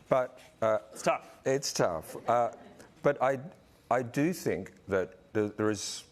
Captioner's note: laughs